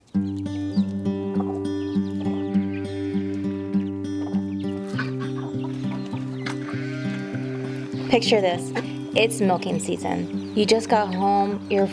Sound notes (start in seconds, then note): 4.3 duck quacking, sheep calling to get milked